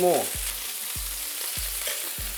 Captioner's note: sizzling sound